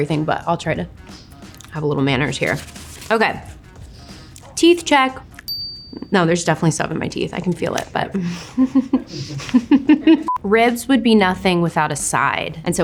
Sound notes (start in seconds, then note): 5.4 bell dings; 8.1 chuckles